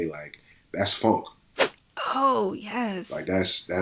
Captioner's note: whoosh